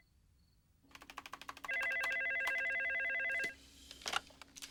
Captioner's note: phone ringing; keyboard clacking